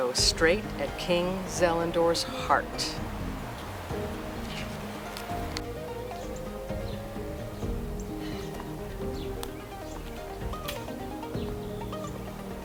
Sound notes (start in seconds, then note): 3.2 birds chirping; 3.2 dramatic music